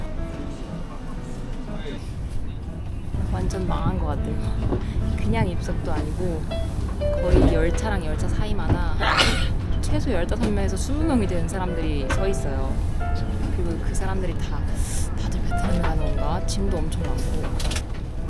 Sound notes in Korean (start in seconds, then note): 9.0 에취